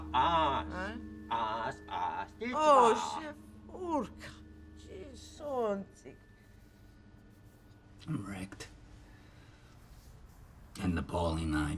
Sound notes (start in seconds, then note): 1.2 woman speaking in unknown foreign language